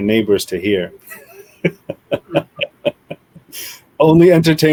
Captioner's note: laughs